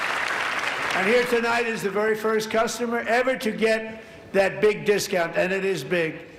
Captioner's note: applause